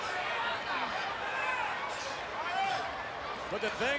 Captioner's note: crowd chattering